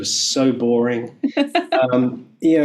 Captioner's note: laughing